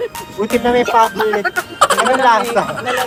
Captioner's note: coughing; laughing SFX